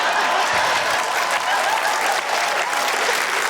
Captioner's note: laughter, cheering, applause